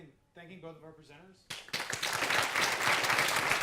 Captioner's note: applause